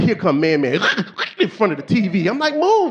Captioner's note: snorting